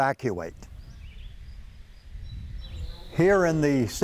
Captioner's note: birds chirping